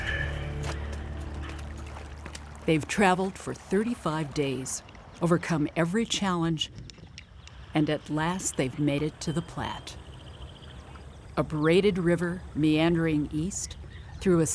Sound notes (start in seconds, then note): 0.0 footsteps splatting; 0.3 water trickling